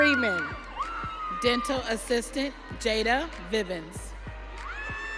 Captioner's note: audience cheering